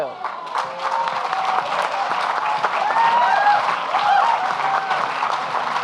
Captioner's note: audience clapping and cheering